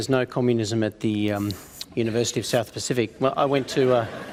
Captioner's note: laughter